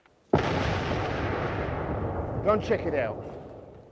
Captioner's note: bomb blasting